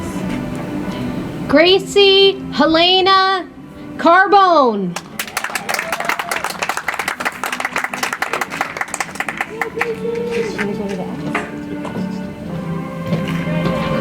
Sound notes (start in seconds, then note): 4.9 audience applauds; 10.4 soft music